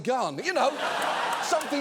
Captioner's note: audience laughs